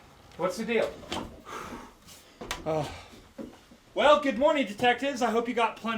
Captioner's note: exhales